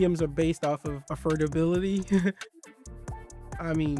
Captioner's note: chuckles